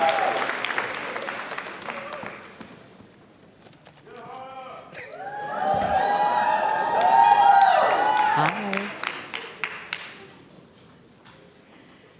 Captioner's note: applause and cheers